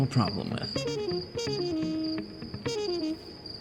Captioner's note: zoning out crickets